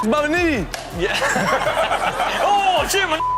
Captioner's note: everyone laughs